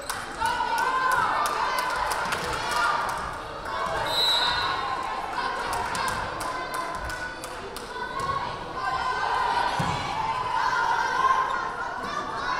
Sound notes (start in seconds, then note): 4.0 whistle blaring